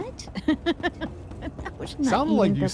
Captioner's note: laughter